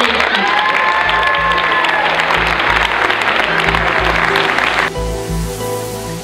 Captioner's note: audience applause